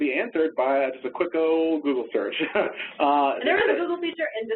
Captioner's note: laughs